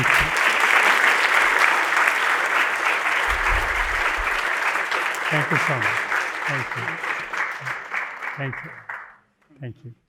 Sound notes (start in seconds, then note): 7.8 applause